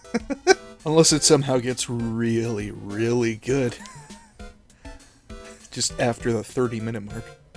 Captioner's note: laughter; wheeze